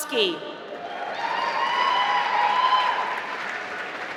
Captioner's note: applause